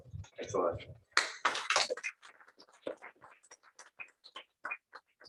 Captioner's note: applause